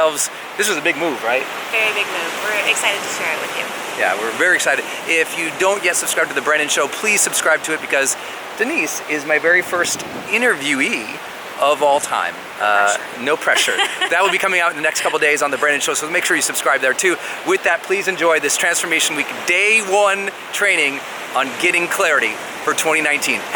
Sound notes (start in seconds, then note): 12.6 laughs